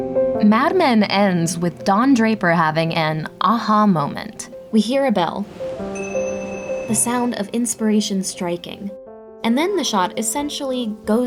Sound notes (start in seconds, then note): 5.9 bell chime